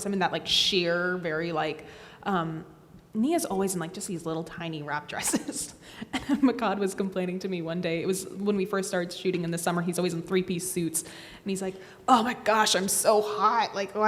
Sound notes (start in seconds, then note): 6.1 laughs